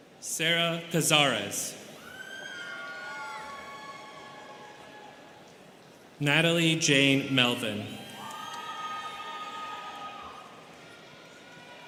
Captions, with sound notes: Sera Cazares. (students cheering) Natalie Jane Melvin. (students cheering)